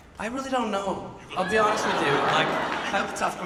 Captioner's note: audience laughs